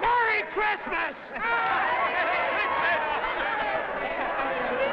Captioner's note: crowd laughing